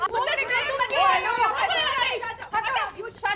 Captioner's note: Quarrelling loudly